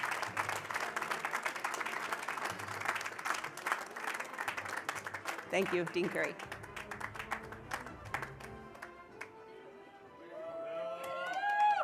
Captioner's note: cheers and applause